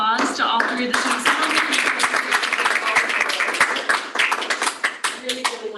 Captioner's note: applause